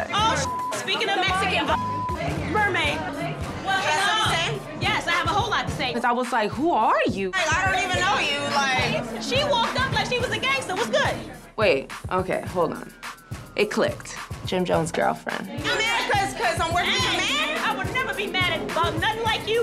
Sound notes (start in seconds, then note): none